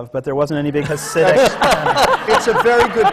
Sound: laughter

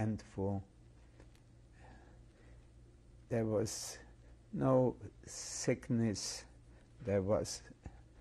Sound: pauses for 3 seconds

